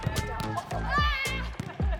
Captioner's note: people cheering